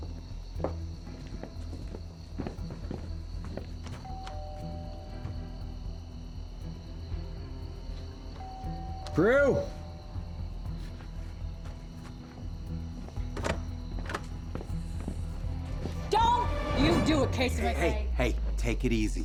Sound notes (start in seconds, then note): 0.5 footsteps; 4.0 rings doorbell; 8.4 rings doorbell; 13.4 rattles locked door handle